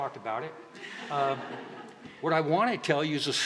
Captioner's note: laughter